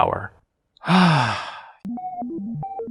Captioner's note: sigh